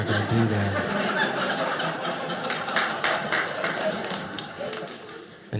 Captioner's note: audience laughing